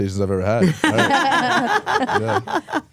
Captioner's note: both laugh